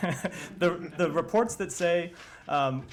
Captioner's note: laughter